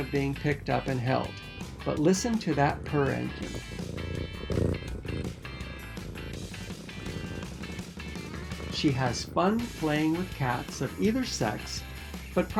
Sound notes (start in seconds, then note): 3.6 Isabel purrs